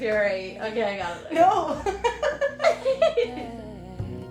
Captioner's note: laughter